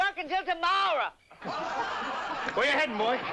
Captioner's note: laughter